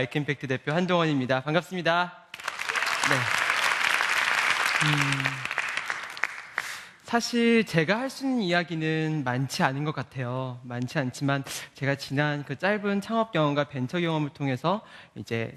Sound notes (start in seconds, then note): 2.3 applause